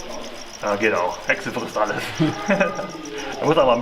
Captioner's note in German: lacht